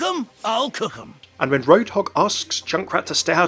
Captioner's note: voiceover